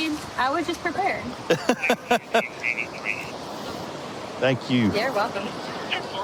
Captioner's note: laughing